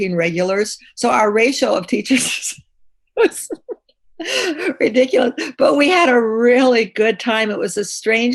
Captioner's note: laughs